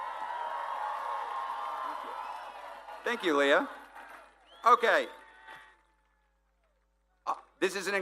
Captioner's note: applause